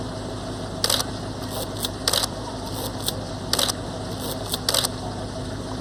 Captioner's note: camera shutter clicking